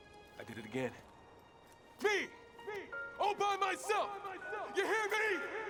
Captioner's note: yelling